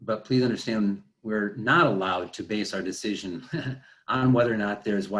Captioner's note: laughing